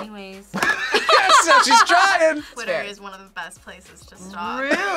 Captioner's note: React laughs